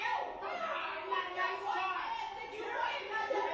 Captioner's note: group yelling